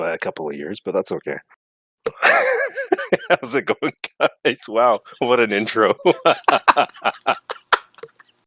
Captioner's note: choking from lauhter; laughter; laughing